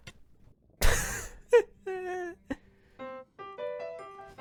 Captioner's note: laughs